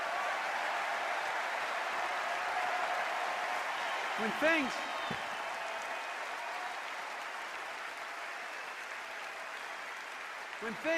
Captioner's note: cheers and applause